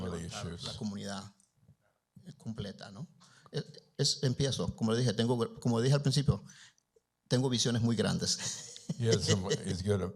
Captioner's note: Spanish language; chuckles